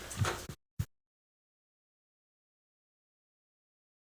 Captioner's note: audio out